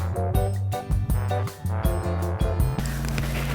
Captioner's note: none